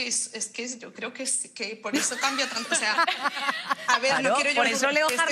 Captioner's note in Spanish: algunos ríen